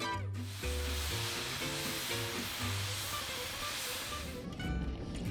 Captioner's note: engine steam hissing; locomotive rattling